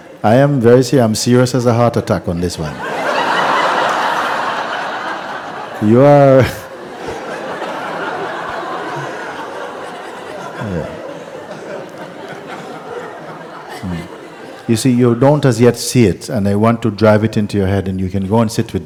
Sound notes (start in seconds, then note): 4.7 laughter; 6.8 laughs